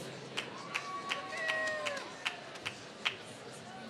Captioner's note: applause